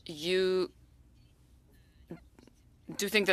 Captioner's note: speaking French